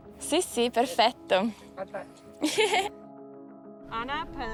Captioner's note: woman speaking in foreign language